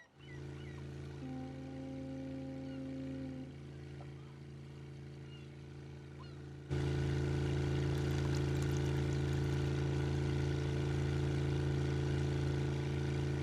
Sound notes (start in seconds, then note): 0.4 engine rumbling; 7.7 alcohol splashing